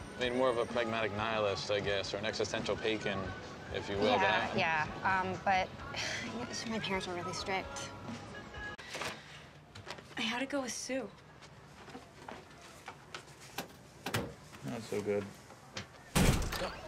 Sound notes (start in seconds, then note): 4.9 sighs